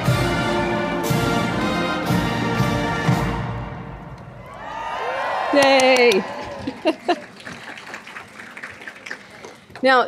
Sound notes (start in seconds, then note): 4.2 crowd cheering; 5.5 clapping